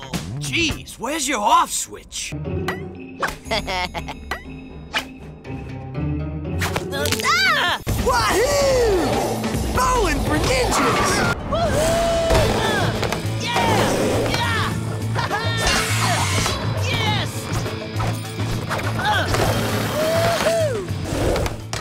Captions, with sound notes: Jeeze, where’s your off switch? [laughing] [yelling] Wahoo! Bowlin’ for ninjas. Wahoo! Yeah!